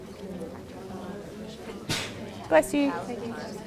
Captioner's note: sneeze